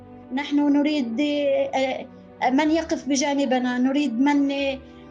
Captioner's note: speaking in foreign language